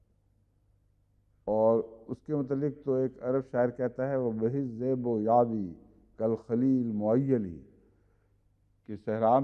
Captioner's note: Arabic